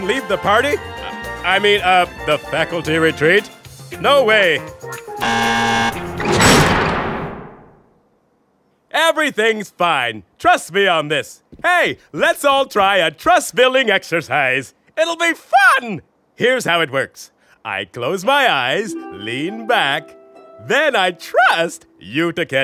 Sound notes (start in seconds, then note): 5.2 buzzer blares; 6.0 locks click into place